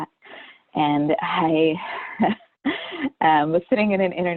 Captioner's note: chuckles